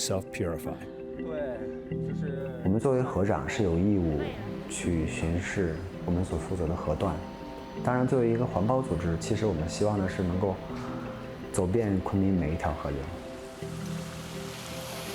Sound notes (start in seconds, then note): 0.2 speaking chinese